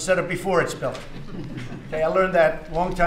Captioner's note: laughter